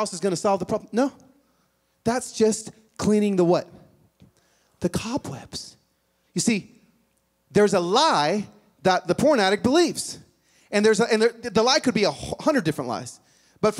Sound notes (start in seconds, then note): none